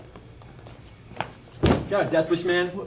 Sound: slam

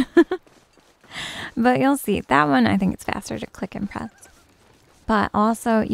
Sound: giggles

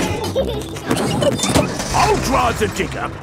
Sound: peppa and george laughing

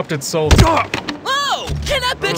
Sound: Tomato grunts

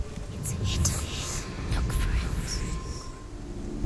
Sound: whisper

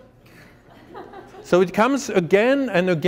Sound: laughter

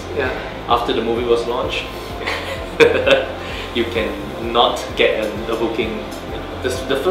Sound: laugh

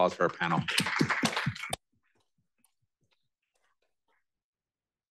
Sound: applause

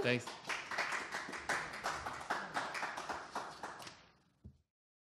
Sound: audience applauds

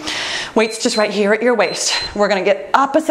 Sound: timer beeps

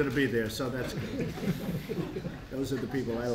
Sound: laughter

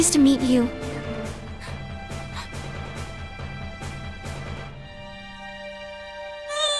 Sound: Frightened Nina continues gasping in fear

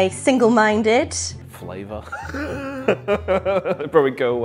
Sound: laughs

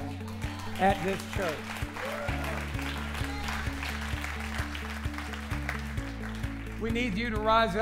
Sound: applause

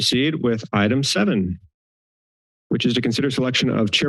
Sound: silence

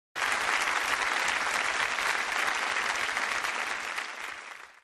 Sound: crowd Cheering

